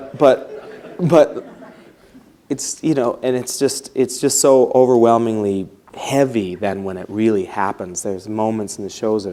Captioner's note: laughs